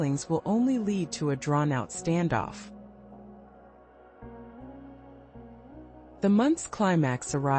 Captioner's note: pause